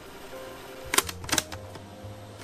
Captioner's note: clicks